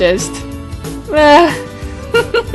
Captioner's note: laugh